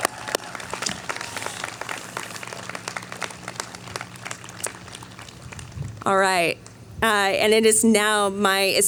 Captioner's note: cheering